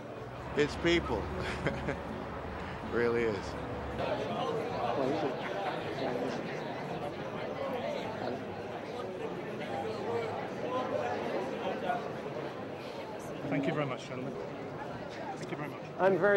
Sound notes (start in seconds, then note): 4.1 people chattering